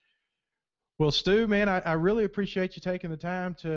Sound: voiceover

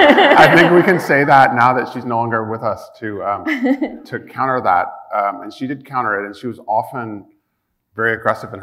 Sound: chuckle

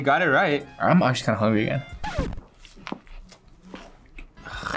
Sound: record scratches

